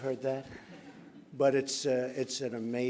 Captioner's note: laughter